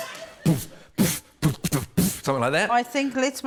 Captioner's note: laughter; beatboxes